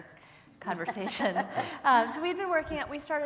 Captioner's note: laugh